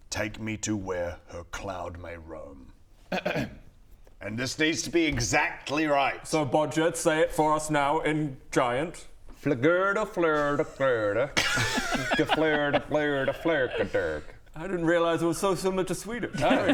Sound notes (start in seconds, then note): 3.1 ahem